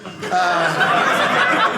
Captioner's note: audience laughing